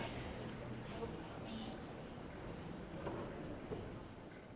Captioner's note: crowd chatters